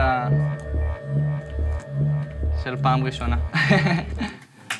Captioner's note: laughs